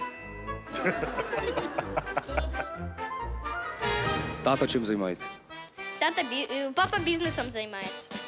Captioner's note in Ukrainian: сміх